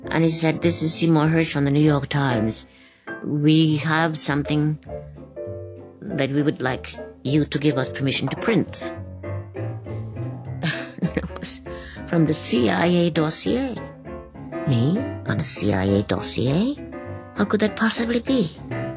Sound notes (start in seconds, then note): 10.6 chuckles